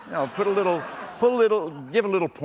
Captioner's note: laughter